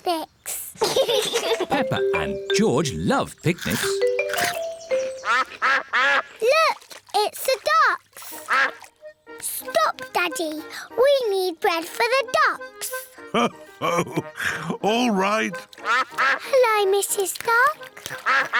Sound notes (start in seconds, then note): 0.8 both laugh; 5.1 quacking